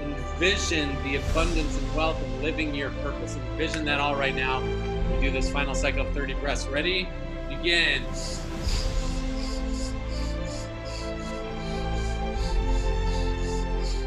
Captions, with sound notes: Envision the abundance, and wealth, and living your purpose, envision that all right now and do this final cycle of 30 breaths, ready, begin. (breathing loudly) (uplifting music)